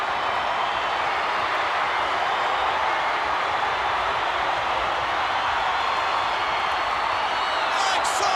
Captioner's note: applause